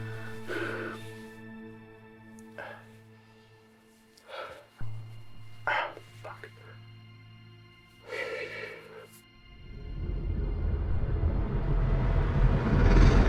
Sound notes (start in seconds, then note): 3.7 mysterious music; 8.0 exhales; 9.4 music intensifies